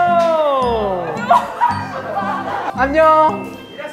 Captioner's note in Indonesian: Ada tawa